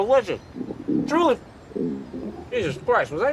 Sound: stomach growling

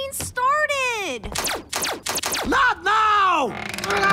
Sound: laser firing; yells

